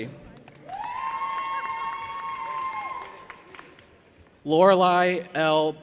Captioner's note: audience applauding and cheering